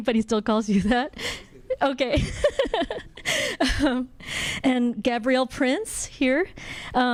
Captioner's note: laughs